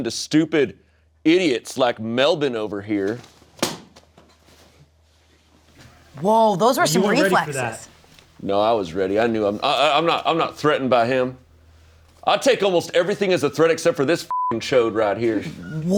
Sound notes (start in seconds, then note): 3.9 book thumps; 14.3 beep